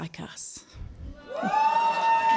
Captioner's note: applause